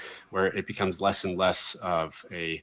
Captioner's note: none